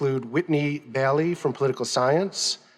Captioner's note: none